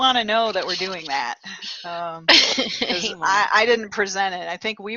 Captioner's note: laughter